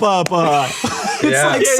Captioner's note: all laugh lightly